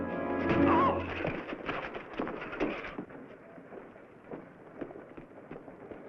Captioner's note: thuds; grunts